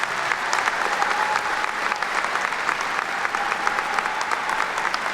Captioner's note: attendees clapping